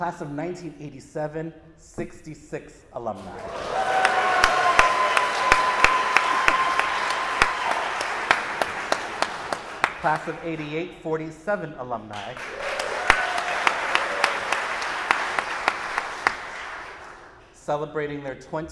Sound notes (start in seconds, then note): 6.1 audience applauding